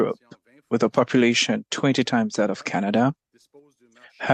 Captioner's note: speaking French